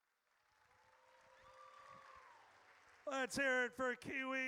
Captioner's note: audience cheers